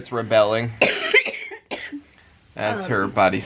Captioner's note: coughing